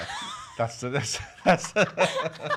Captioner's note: laughs